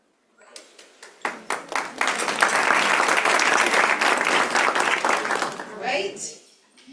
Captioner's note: applause